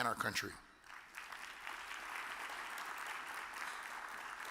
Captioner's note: audience applause